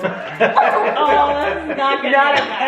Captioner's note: family laughs